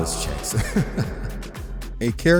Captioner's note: laughs